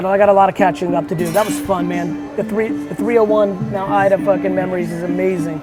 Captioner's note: none